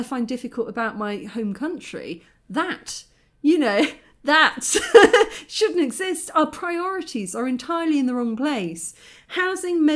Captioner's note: laughing